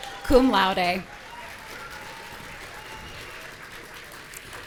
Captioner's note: audience cheering